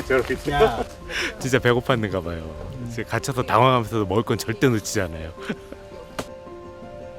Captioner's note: laughs